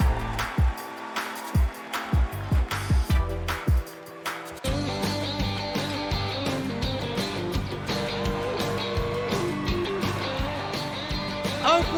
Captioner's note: cheers and applause